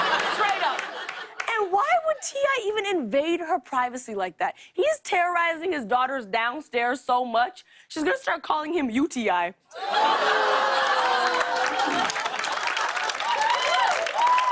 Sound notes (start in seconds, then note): 9.7 laughter; 11.9 cheers and applause